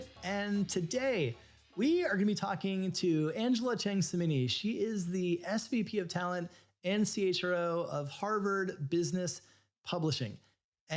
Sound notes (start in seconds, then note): none